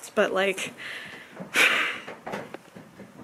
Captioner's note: heavy sigh